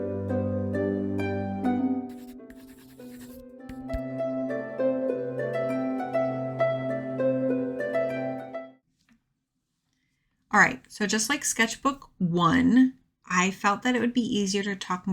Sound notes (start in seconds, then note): 0.0 fantasy music; 2.0 pencil scribble noises; 7.4 fantasy music